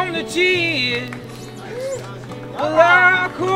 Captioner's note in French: applaudissements